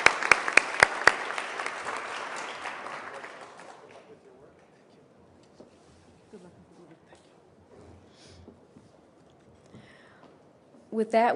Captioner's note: applause